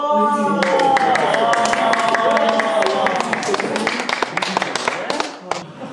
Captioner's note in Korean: 박수